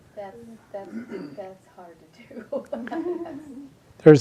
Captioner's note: laughs